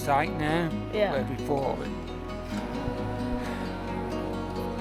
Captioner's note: sighs